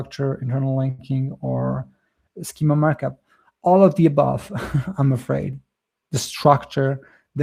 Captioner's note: chuckles